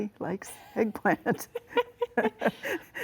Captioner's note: laughs